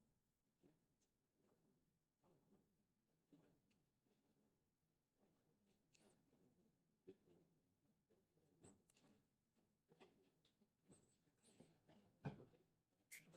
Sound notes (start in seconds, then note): 2.8 silence